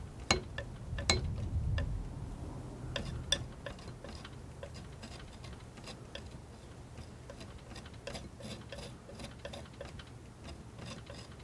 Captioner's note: clinking